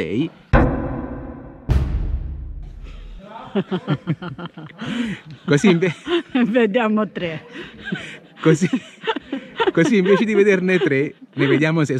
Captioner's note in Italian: Risate